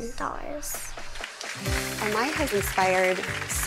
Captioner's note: audience applausing